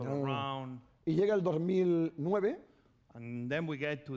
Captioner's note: speaking spanish